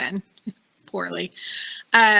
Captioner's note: laughing